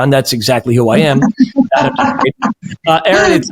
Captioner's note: laughs